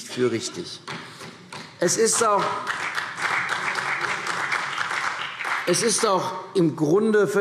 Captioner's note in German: Beifall CDU und BÜNDNIS 90/DIE GRÜNEN